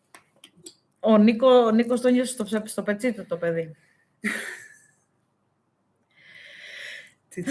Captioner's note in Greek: γέλια